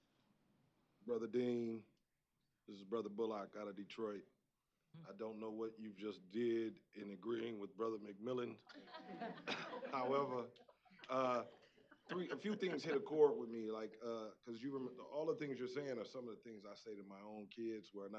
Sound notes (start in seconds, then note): 8.6 laughter